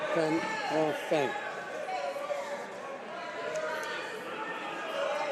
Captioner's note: chatter and shouting